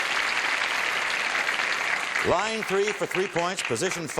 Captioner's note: applause